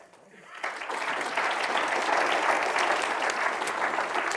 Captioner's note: audience applauds